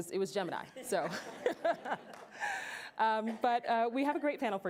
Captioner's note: laughter